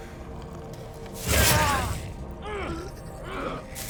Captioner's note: groaning